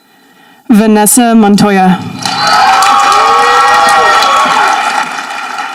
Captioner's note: audience applauding